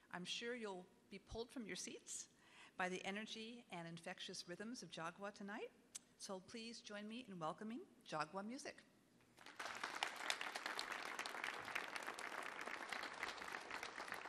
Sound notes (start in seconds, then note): 9.3 audience clapping